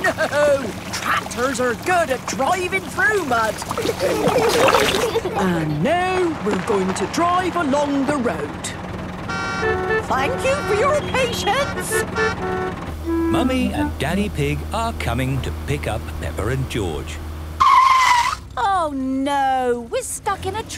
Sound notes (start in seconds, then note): 3.8 giggling; 9.1 cars honking; 17.8 tires screeching